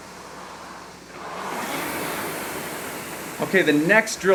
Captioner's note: rowing machine whirring